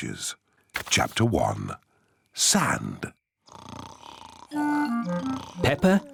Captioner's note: snoring